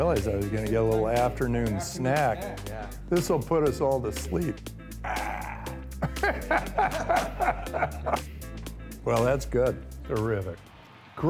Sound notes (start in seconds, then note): 5.0 laughing